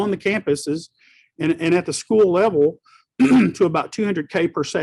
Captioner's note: clears throat